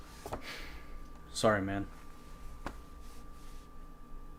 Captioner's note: exhales